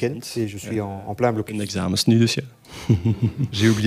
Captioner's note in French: rires